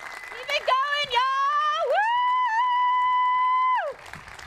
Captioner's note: applause